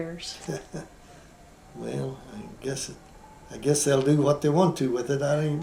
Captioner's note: laughs